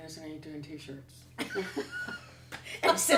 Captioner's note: laughter